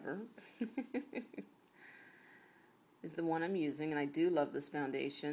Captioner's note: chuckles